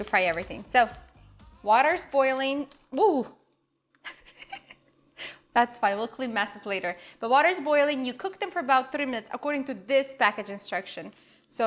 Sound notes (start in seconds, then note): 4.0 giggles